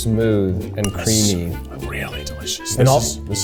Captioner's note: whispering